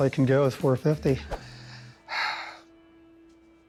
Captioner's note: sighs; tense music